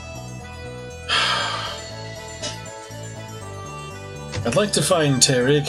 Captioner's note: sighs